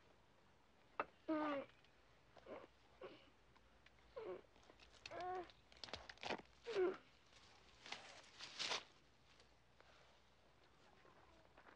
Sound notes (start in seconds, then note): 4.6 groaning